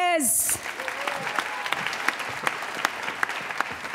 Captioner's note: applause